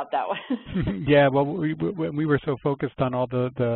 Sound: voiceover

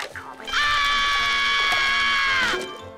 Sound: screaming

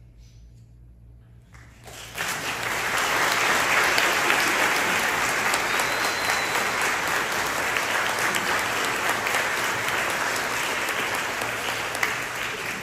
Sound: applause

